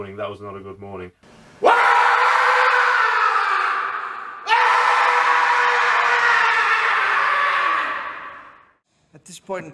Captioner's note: wailing